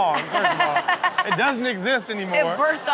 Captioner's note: everyone laughs